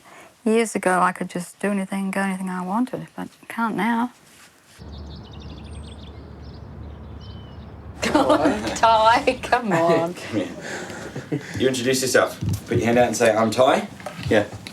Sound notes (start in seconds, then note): 8.6 laughs